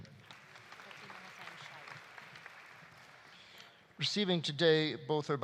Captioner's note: audience applauding